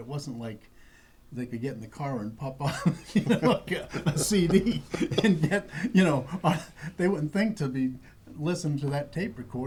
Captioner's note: laughter